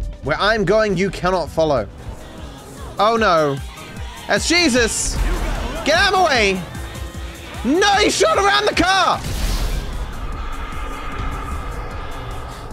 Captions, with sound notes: Where I’m going you cannot follow. Oh, no, that's Jesus. [Shouting] Get out of my way! No he shot around the car??